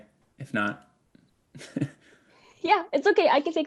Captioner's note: laughs